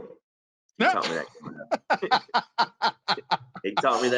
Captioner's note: laughs